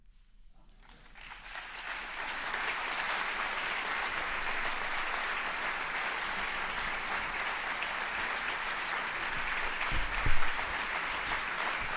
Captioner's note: applause